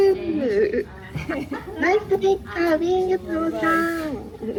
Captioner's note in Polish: śmiech